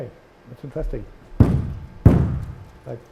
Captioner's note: banging